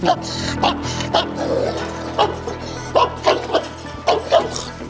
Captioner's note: barking sounds and tense music